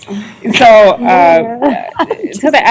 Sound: laughter

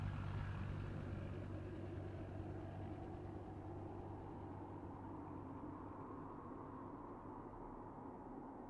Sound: silence... except for a light breeze

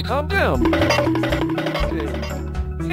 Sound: funny Cartoon Walk Sound Effect

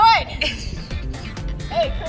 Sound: laughter

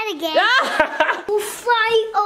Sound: laughs

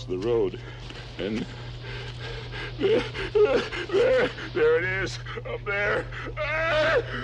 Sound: screams

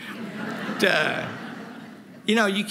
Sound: laughter

